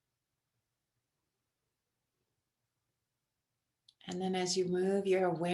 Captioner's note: silence